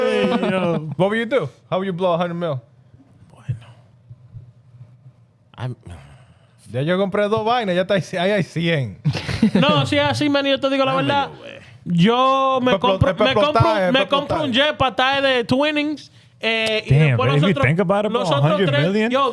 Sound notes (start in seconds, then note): 6.4 speaking In Foreign Language